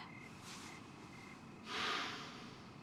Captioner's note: sighs